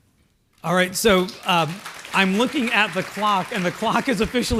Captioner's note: applause